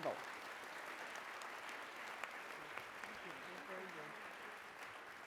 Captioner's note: audience applauding